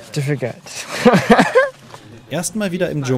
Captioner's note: laughter